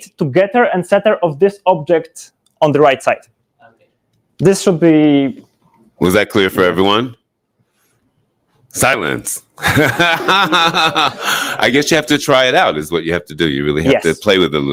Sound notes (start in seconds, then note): 9.6 audience laughs; 9.6 laughs